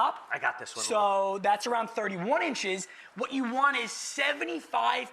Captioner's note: none